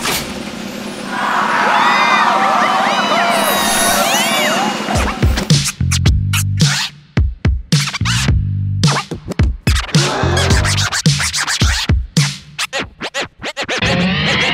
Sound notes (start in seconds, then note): 0.8 crowd cheering; 7.8 record scratching; 9.9 gasping